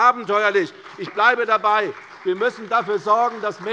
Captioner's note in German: Beifall bei der CDU